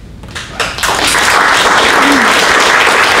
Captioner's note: applause